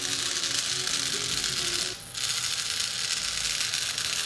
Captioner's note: motor spinning